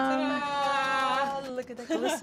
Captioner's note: cheers